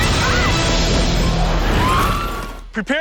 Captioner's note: screaming